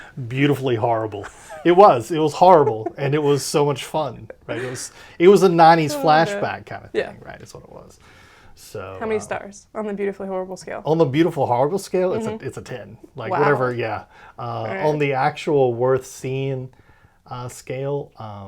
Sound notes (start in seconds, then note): 1.2 laughs